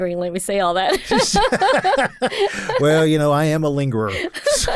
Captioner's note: laughs